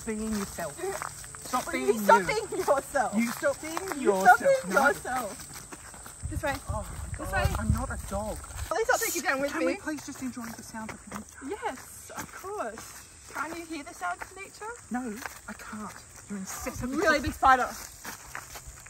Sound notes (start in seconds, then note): 9.1 shushing